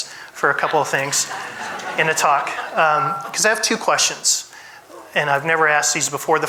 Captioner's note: audience laughs